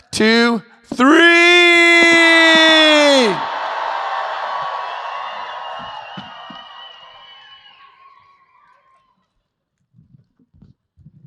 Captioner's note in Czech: potlesk